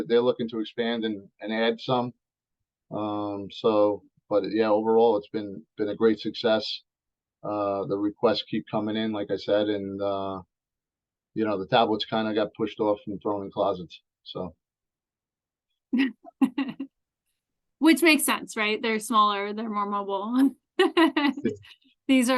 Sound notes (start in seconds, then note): 16.4 laughs; 21.5 laughs